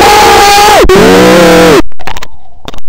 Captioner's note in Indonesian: banshee teriak